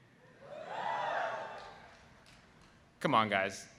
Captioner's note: audience woo'ing